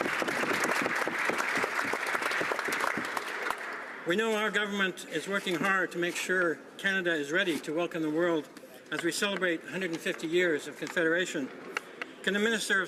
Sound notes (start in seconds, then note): 1.9 applause